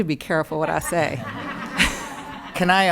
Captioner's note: audience laughing